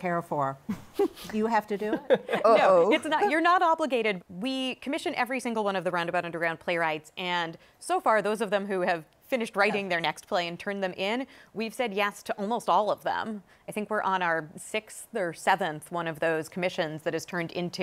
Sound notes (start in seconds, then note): 1.8 laughs